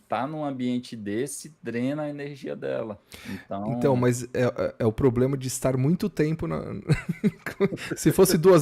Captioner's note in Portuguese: risadas